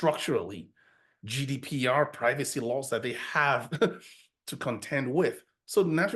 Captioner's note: chuckles